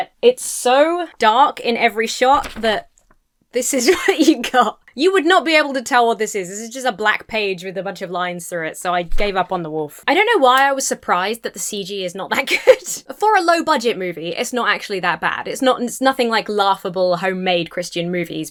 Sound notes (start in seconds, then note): 3.7 laughs; 12.3 laughs